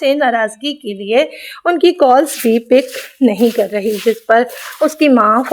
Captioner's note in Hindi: नाक से की जाने वाली आवाज़